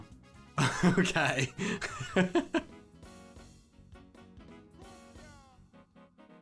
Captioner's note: laughs